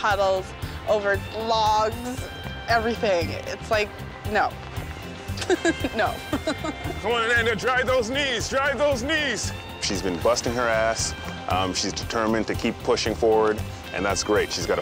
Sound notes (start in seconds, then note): 5.3 laughs